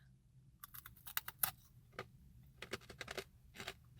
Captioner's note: crunching